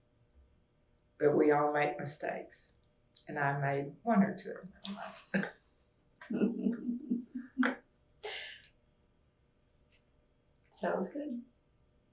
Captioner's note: laughter